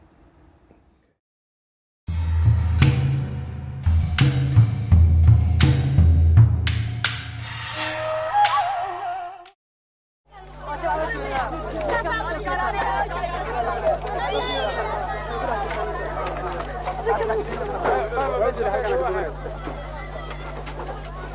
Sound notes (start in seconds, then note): 0.2 upbeat music; 8.6 people speaking in foreign language